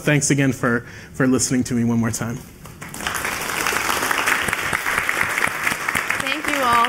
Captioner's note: applause